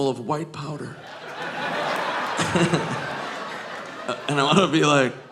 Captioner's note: all laughing